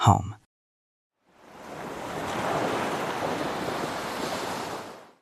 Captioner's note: ocean waves